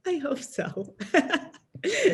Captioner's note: laughs